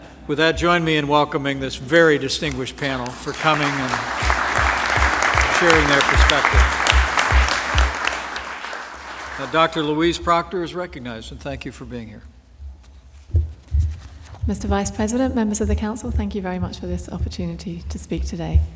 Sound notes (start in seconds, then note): 6.6 applause